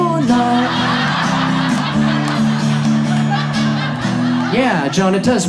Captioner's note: audience laughs